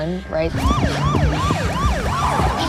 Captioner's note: siren blaring